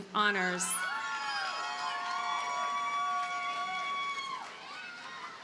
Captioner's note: audience cheers and applauds